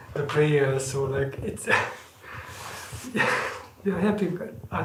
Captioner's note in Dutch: lacht